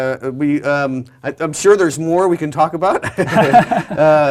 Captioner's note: laugh